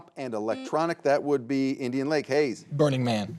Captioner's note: buzzer beeps